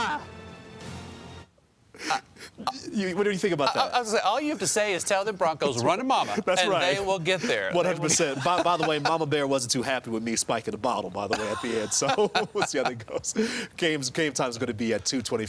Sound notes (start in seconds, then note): 7.5 laughter